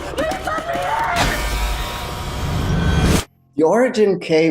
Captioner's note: door buzzes